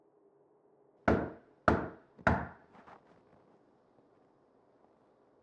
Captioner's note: knock raps on door